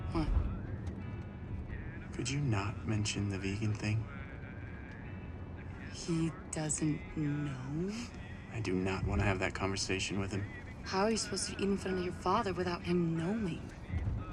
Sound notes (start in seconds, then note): 8.7 scoffs